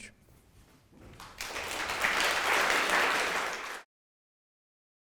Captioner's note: applauding